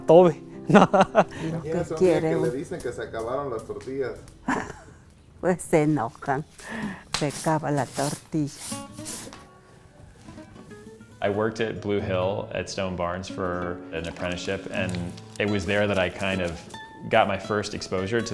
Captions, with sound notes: (person laughing) (speaking in foreign language) (speaking in foreign language) I worked at Blue Hill at Stone Barnes for an apprenticeship and it was there that I kind of got my first exposure